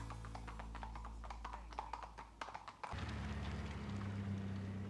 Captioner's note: hooves clomping; engine rumbling; birds chirping